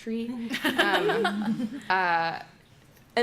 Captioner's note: laughter